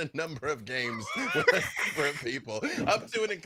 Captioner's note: laughs